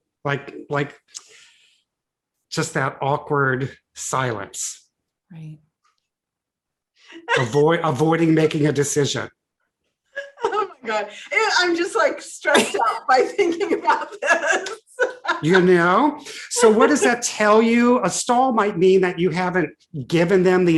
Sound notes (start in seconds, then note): 7.1 laughs; 12.5 laughs